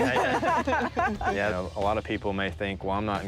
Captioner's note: laughing